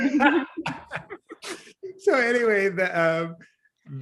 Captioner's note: laughs